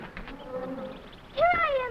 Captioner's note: animals chattering